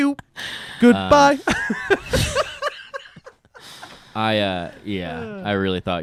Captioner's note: laughs